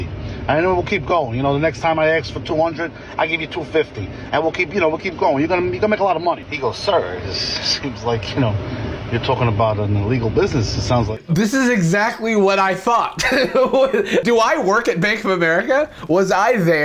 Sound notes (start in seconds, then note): 12.4 chuckles